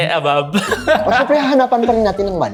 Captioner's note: laughs